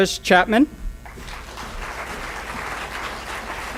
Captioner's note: applause